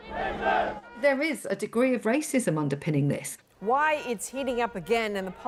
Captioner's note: chanting